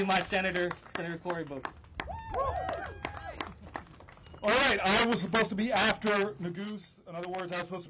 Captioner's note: applause